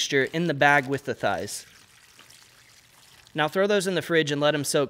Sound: liquid pouring

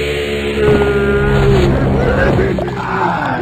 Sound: crying

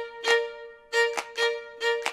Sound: a couple of claps

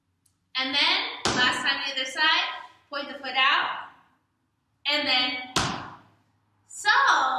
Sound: small Stomp

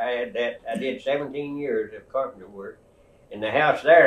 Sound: laughs

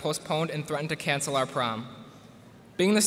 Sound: none

